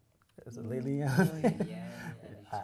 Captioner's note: laughs